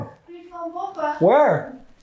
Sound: speaking Frisian

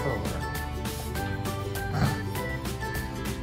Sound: snickers

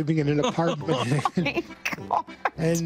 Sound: hosts laughing

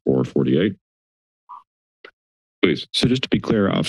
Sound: silence

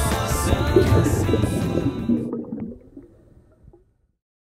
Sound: water bubbles bubble

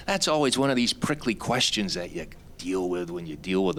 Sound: none

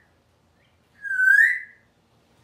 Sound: whistling

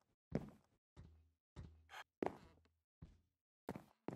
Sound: footsteps

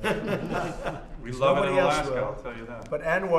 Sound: laughter

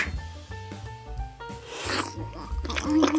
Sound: slurping

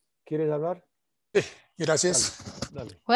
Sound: replying in foreign language

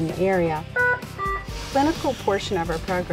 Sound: machine beeping

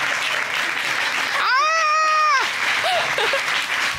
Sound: chuckles; screams

